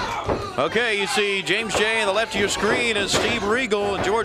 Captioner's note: crowd chatter